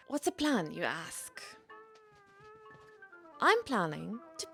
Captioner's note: feet shuffling on a wooden floor